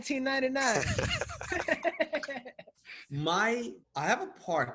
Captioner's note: laughing